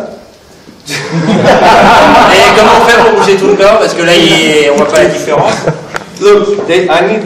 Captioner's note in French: Rires